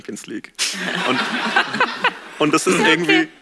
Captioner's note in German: Gelächter